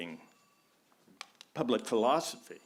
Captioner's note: phone ringing